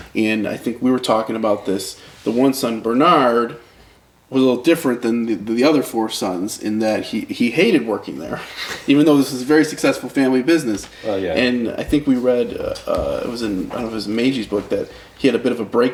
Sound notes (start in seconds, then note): 8.4 laughs